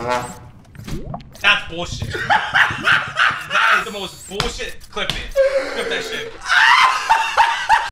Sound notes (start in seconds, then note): 2.0 laughing hysterically; 5.3 more hysterical laughter